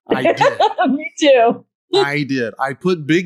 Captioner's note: laughs